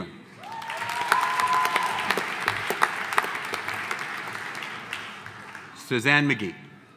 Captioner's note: audience applauding; audience cheering